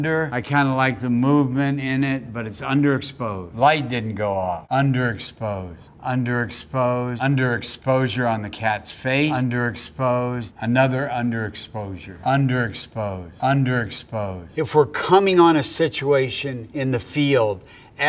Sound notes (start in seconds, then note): none